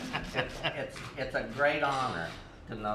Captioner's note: laughter